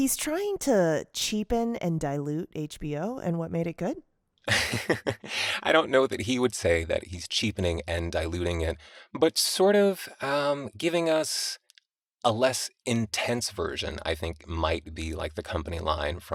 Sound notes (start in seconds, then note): 4.4 laughter